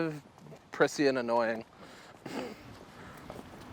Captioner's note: laughing